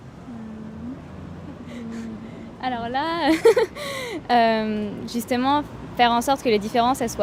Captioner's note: laughter